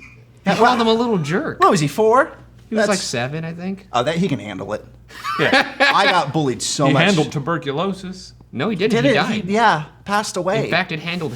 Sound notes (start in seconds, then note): 5.1 laughs